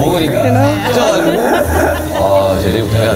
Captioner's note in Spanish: Ja ja ja